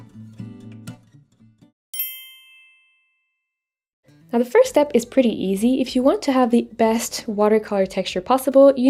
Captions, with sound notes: (twinkle tone) Now the first step is pretty easy. If you want to have the best watercolor texture possible,